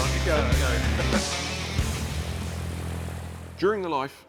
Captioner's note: propeller sound